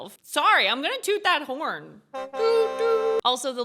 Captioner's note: horn tooting